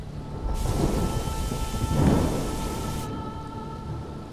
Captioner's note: storm raging; soft music